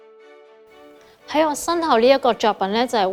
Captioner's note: Cantonese